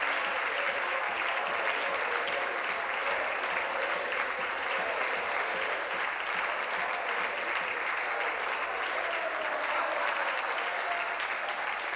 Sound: applause

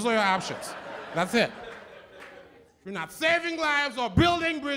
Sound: laughter

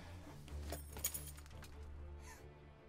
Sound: keys jingle

